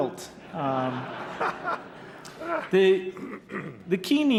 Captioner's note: laughter